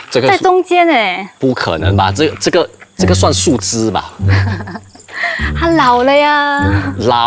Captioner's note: laughs